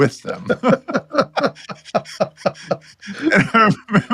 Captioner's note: both laughing